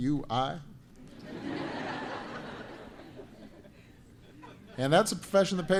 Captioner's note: laughter